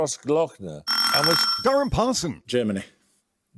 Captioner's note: buzzer